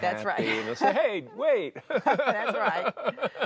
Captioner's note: laughter